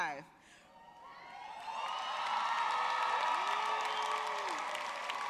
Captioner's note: audience cheering